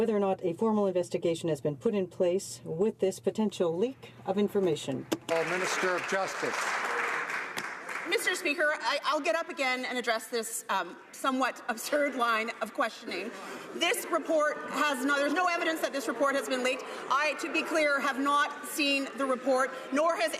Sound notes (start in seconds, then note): 8.0 some Applause